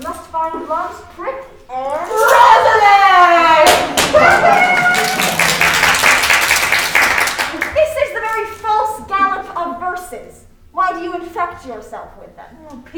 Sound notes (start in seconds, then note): 2.0 laughing; 5.3 crowd applauding